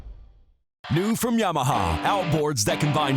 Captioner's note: voiceover